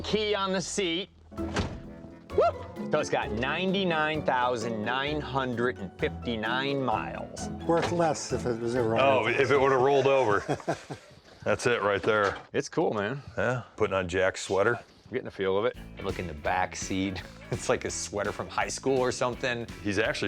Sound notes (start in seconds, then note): 10.9 laughs